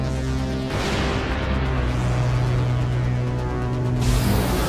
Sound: portal buzzing

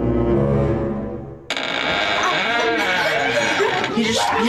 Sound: door squeaking

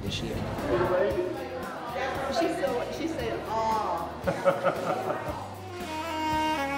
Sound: chatter

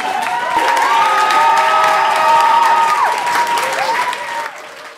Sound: students cheering

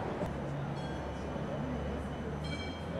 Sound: tram noises

